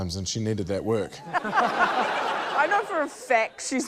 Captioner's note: laughter